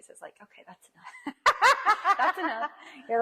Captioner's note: laughs loudly